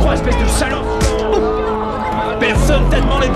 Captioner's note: grunts